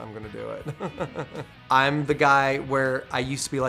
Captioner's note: laughter